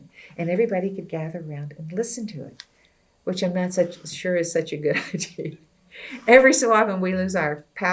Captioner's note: laughs